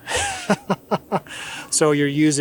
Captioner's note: laughs